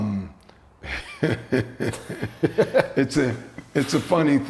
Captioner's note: chuckling